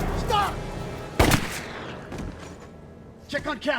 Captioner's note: gunshot blasts